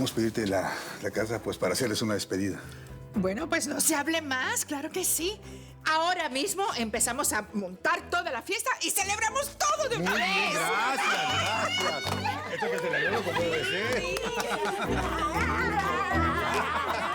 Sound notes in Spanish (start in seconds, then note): 10.8 risas; 11.8 exclamaciones